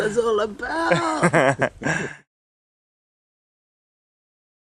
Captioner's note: laughter